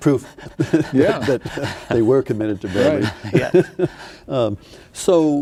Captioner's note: laughing